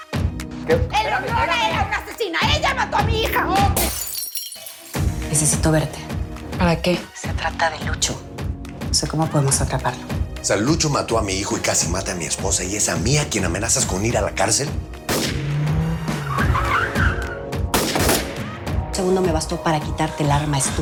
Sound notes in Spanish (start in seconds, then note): 3.8 Sonido al quebrarse la urna; 16.9 Chirrido de llantas; 17.7 Disparo; 17.7 Disparos